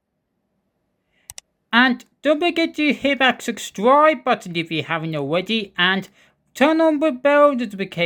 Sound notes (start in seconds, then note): 1.2 click sound